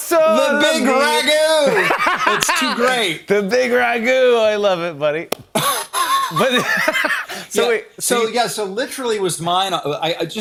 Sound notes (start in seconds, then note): 5.5 both laugh